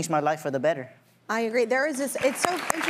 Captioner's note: audience applauding